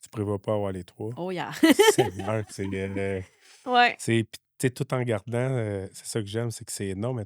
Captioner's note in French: rires